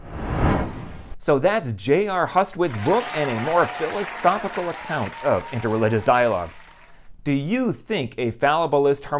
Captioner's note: applause